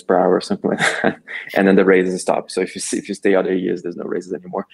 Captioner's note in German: lacht